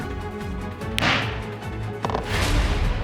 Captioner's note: bangs gavel